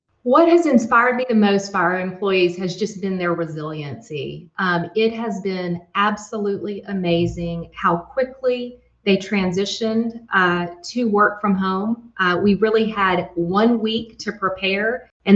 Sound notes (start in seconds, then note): none